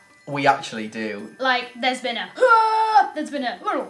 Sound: funny noise

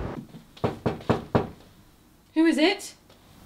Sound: knocking

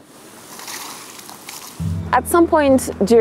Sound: water splashing

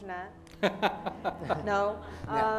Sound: laughter

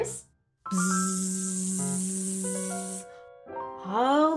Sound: buzzing

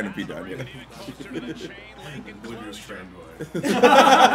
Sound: laugh

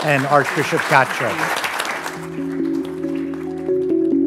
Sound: audience applauding; calm music

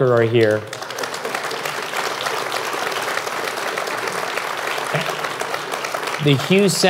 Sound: applause

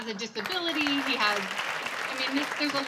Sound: applause

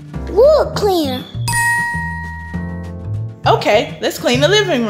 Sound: ding sound effect

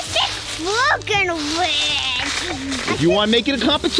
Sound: footsteps rustle in leaves

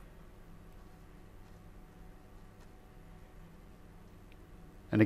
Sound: silence

